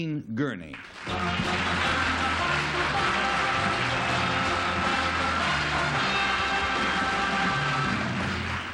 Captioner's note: applause